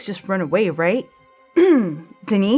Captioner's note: ahem